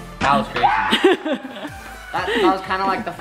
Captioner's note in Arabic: ضحك